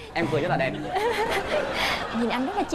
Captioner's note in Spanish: risas